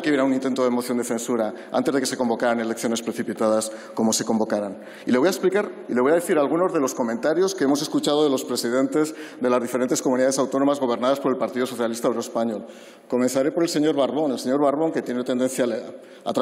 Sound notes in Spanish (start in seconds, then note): none